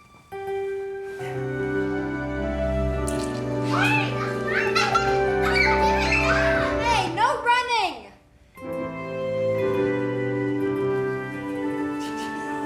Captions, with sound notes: (gentle music) (kids laughing and screaming) - Hey, no running. (gentle music)